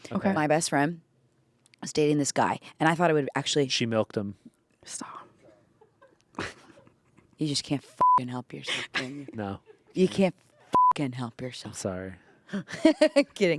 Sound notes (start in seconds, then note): 8.0 beep; 10.7 beep; 12.5 laughs